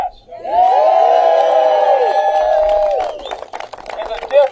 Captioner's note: applause